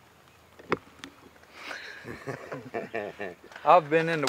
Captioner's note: laughing